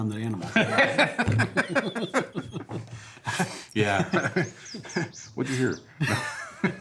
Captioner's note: laughs